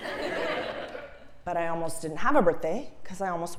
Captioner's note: laugh